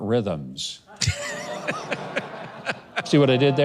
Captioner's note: laughing